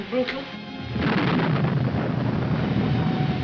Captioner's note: thunderclap